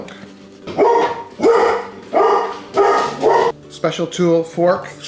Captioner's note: dogs barking